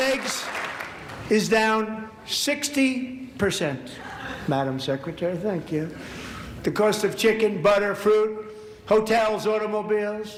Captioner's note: applause